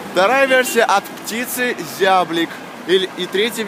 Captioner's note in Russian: none